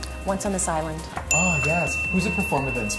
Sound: bell dinging

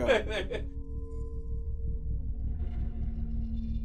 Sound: man laughs

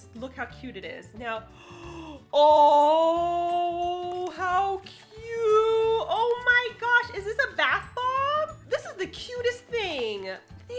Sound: gasps

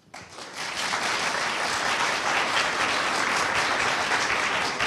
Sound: audience applauding

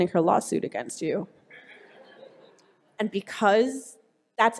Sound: laughing

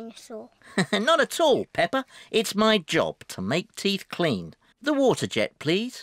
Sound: laughs

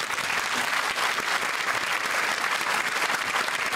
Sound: applause

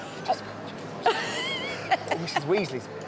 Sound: whispers

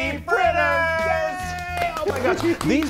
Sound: hands clapping

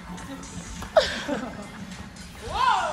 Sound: laughs out of cringe

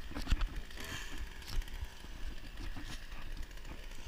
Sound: chainsaw Noise

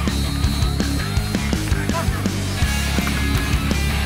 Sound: whistle blowing

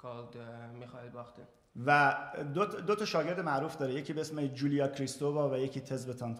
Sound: speaking in farsi

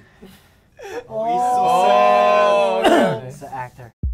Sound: members exclaiming in awe

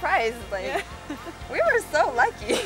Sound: laughing

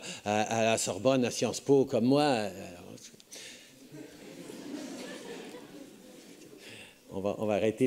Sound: laughs

